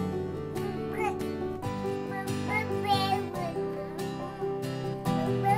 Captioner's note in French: bruit de bébé